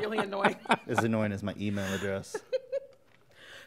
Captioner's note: chuckles